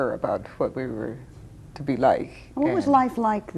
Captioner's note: none